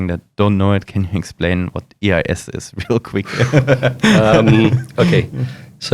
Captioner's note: laughs